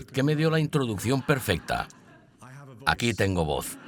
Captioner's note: audience laughs